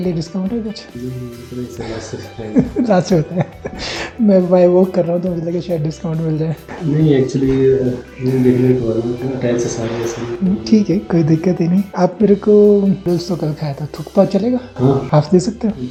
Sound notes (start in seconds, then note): 2.5 laughing